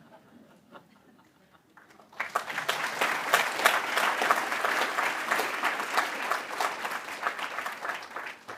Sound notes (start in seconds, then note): 1.7 applause